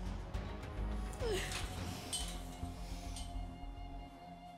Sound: sobbing

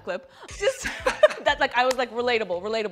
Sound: laughter

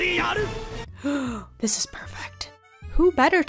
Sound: gasp

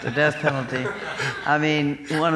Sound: chuckling

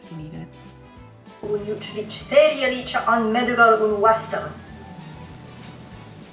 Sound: speaking in foreign language

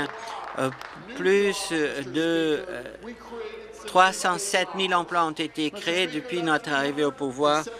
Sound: applause

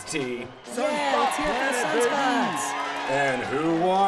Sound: cafe goers cheer for Sunspots

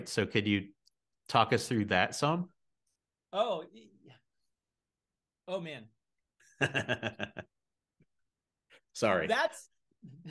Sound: polite laughs

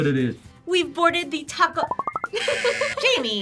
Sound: laughs

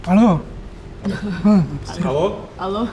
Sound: laughs

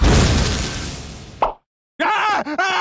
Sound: pop!

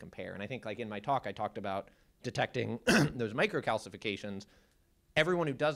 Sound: cough

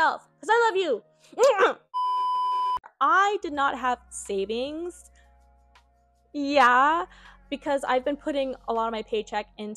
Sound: aggressive smooch

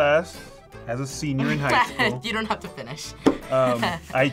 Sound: laughs

